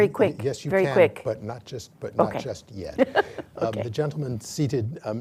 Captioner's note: laughs